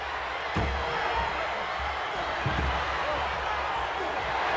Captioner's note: crowd cheering